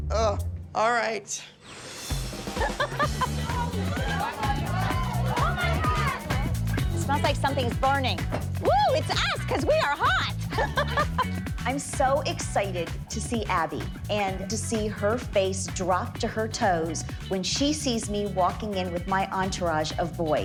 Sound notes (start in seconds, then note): 2.5 laughs; 2.8 chatter; 8.6 laughs